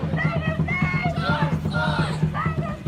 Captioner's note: yelling